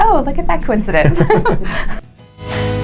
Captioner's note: couple laughs; playful music